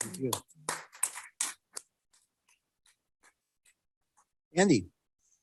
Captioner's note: audience applauding